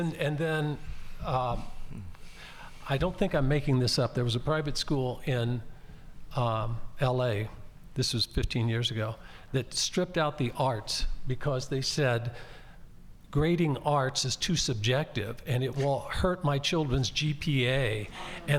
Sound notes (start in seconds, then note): none